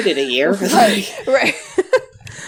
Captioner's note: laughs